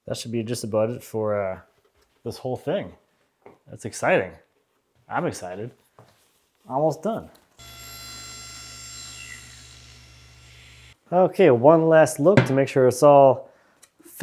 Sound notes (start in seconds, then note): 7.6 saw zings